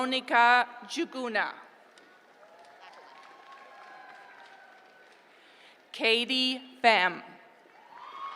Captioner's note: applause; applause